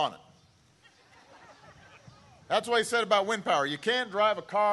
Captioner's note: laughter